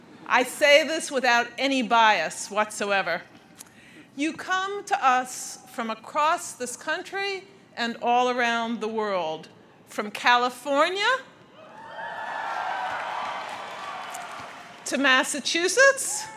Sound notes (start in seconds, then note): 11.6 crowd cheers